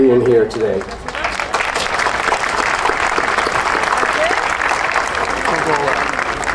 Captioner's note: audience cheering and applauding